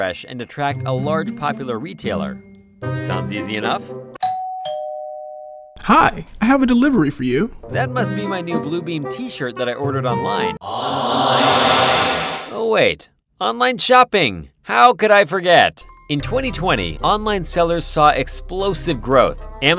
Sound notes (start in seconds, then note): 4.2 doorbell ringing; 10.6 echo